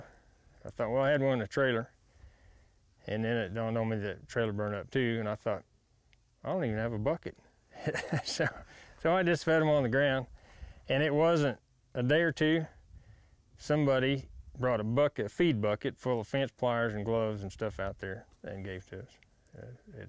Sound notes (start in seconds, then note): 7.7 laughing